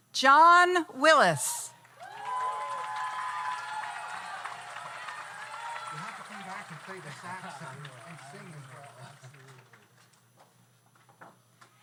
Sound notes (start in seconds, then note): 1.8 audience cheers; 1.8 audience applauds